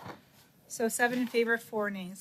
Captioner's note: speaking French